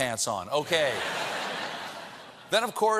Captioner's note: laughter